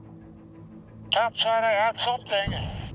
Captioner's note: speaking over radio